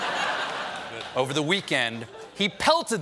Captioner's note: laughter